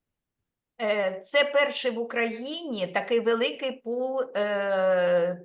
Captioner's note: speaking Ukrainian